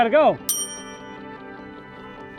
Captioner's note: ding